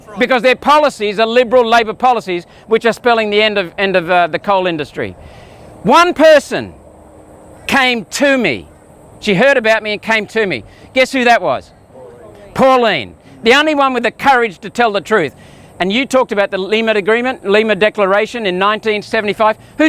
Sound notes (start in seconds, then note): 12.0 crowd